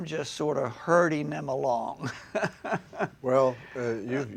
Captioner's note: laughs